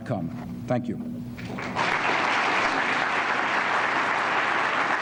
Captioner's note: applause